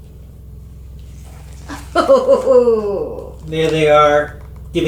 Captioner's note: laughing